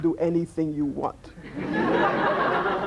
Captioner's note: laughter